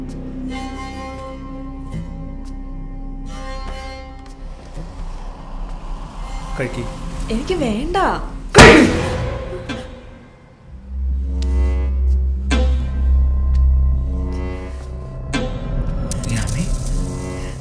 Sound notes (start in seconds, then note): 8.3 shudder